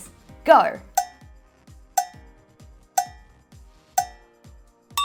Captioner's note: clock ticking